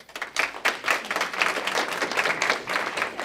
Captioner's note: applause